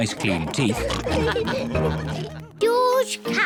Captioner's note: all laugh